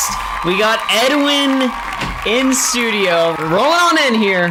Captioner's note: cheering, clapping